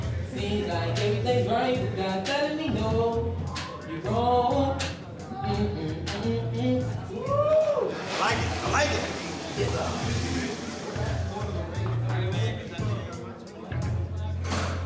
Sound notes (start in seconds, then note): 5.0 continues to hum melody; 7.1 cheers